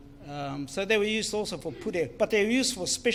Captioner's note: foreign Language